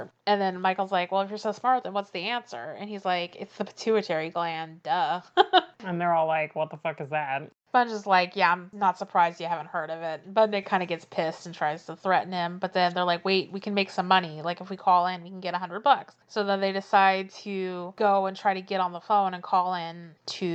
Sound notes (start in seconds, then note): 5.3 laughs